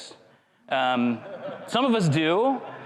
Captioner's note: crowd chuckles